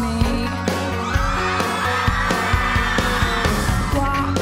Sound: audience cheering

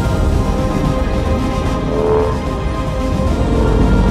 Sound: rumble

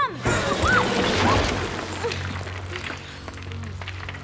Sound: crumbling

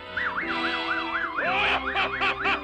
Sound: laughs

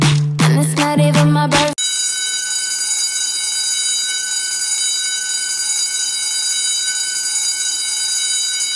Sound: bell ringing

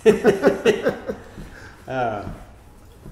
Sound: laughing

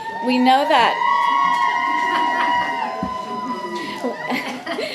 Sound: audience cheering

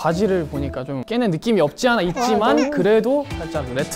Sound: cries

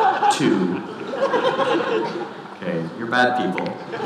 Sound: audience laughing

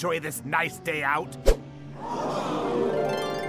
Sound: class gasps in astonishment

